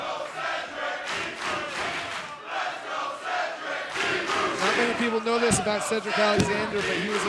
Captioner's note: applause